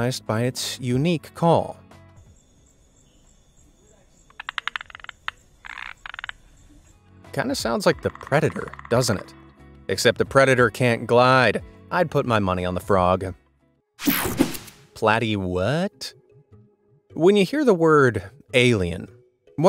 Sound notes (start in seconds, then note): 2.8 frog croaking; 14.0 digital buzzing